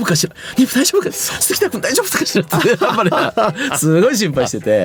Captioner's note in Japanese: 笑い